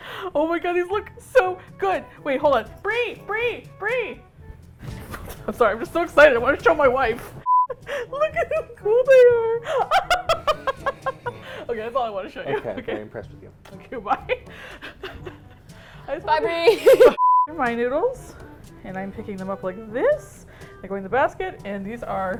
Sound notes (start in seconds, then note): 9.2 giggles; 9.5 laughs gleefully; 16.5 laughs